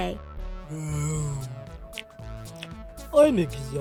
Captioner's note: yawns